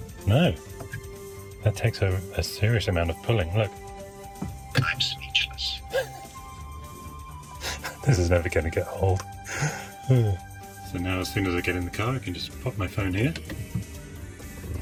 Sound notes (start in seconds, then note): 5.8 laughs